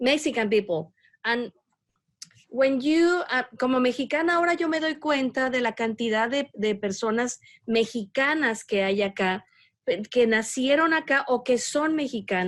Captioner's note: speaking spanish